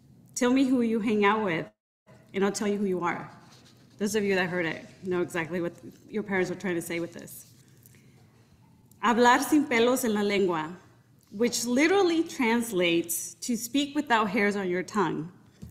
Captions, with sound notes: "Tell me who you hang out with and I'll tell you who you are." Those of you that heard it know exactly what your parents were trying to say with this. (speaking in Spanish) which literally translates to, "Speak without hairs on your tongue."